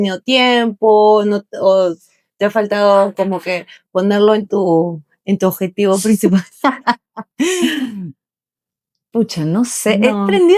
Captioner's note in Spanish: risas